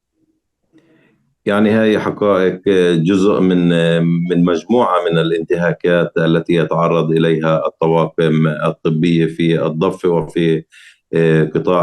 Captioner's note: speaking arabic